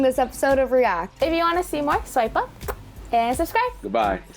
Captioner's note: smacks lips